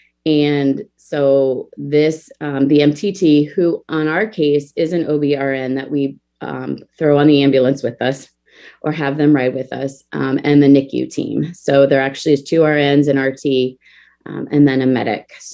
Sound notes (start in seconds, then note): none